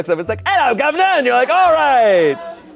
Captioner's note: in British accent